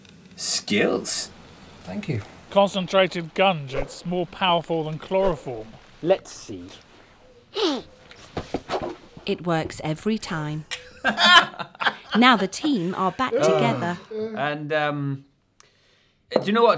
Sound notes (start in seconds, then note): 10.7 cheesy laughter